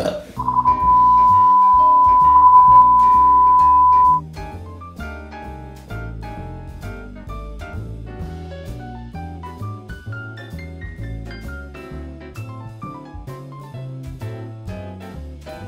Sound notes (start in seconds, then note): 0.0 burps; 0.4 beeping; 4.8 lighthearted music